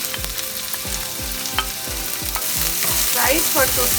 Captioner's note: frying sound